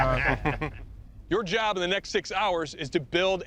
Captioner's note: laughter